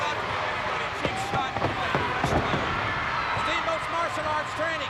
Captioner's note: crowd cheering; rhythmic pounding